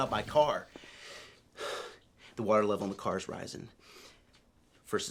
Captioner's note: exhales